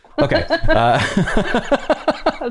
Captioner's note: laughter